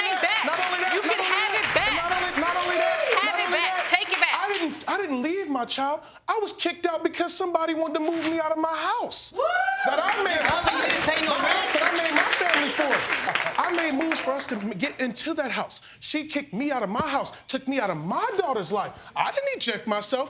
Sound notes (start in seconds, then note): 10.0 audience applauding